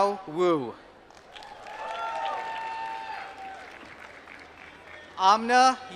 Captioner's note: applause